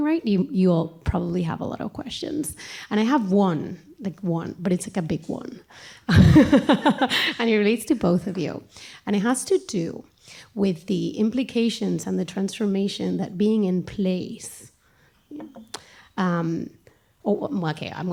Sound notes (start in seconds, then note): 6.1 laughter